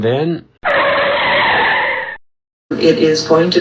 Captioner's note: tires screeching to a halt